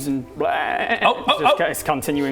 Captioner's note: baaaaaaaaaa